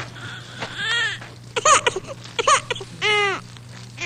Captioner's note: baby crying